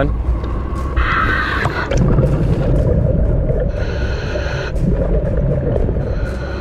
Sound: bubbles churning; deep breathing

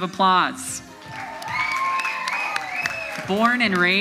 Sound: audience applauds

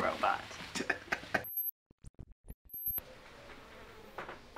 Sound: chuckling

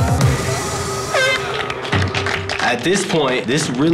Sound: air horn blows

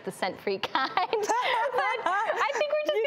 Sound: laughs

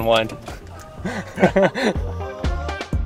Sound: chuckles

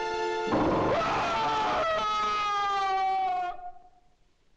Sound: tense music; man screams

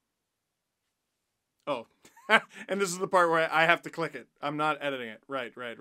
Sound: laugh

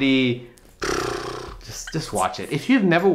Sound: blows raspberry

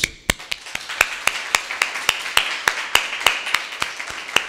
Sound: audience applauding

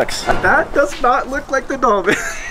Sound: chuckles

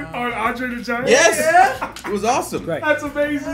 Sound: laugh

